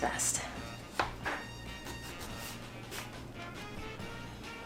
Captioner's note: planter scraping